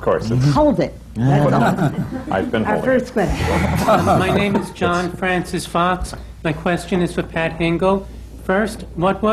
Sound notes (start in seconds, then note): 3.3 laughter